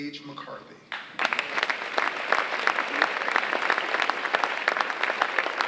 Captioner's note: audience applauding